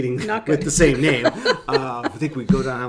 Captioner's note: laughing; laughs